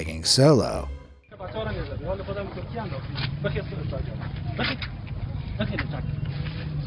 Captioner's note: soldier speaks in foreign language